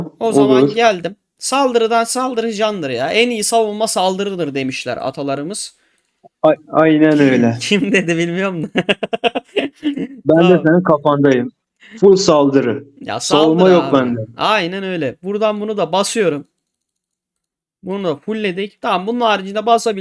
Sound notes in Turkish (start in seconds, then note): 8.5 kahkaha; 9.6 boğazını temizler